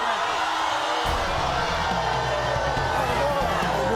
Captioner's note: audience boos